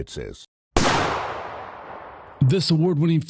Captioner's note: gunshot